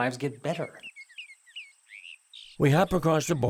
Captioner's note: birds chirping